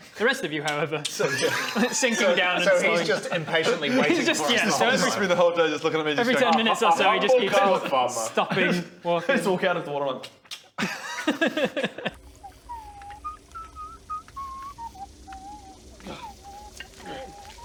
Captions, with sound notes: The rest of you however So good! sinking down So he's just impatiently waiting for us the whole time He just spends the whole day looking at me going *click* - Every 10 minutes or so he just keeps walking...stopping...walking... - A humble garlic farmer! I just walk out on the water and *click click* *smug whistling* Gah! Urgh!